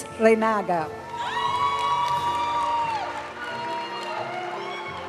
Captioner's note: audience cheering and applauding; graduation music